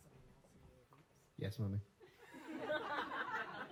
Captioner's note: laughter